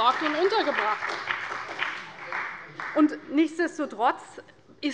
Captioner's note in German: Beifall bei der CDU und dem BÜNDNIS 90/DIE GRÜNEN